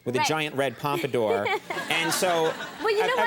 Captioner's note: Hillary giggling